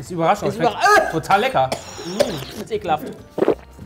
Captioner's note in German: Husten